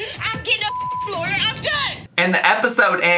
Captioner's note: beep